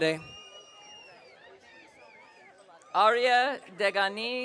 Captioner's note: audience cheering